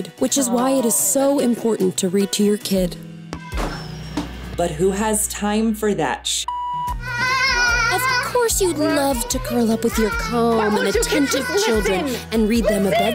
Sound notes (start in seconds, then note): 7.0 kids shouting